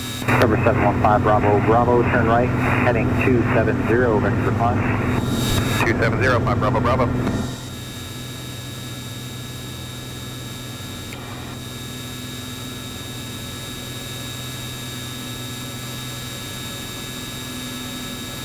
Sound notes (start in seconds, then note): 8.9 plane engine buzzing; 15.1 plane engine buzzes